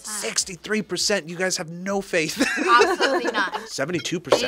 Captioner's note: laughs